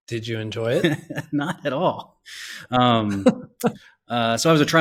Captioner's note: both laugh